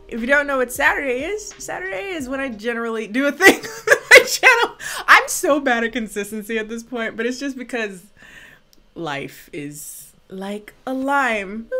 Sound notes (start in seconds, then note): 3.7 laughs